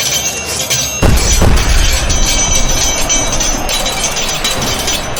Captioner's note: explosions booming